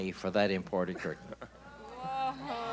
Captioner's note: chuckling